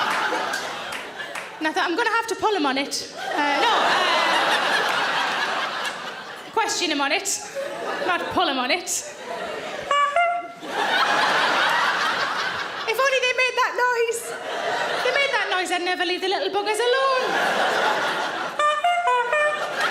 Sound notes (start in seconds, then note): 3.1 audience laughing loudly; 9.8 mimics clown horn tooting; 10.7 audience laughing loudly; 18.5 mimics clown horn tooting; 19.2 loud laughter and applause